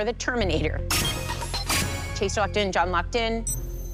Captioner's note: chime, chime